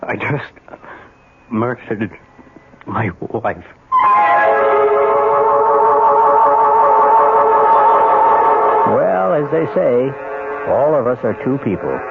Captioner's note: sirens